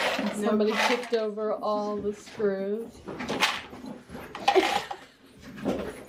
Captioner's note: laughs